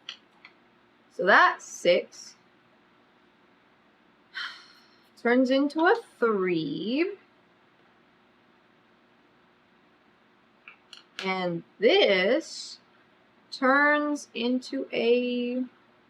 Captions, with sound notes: SO THAT'S SIX [SIGHS] TURNS INTO A THREE AND THIS TURNS INTO A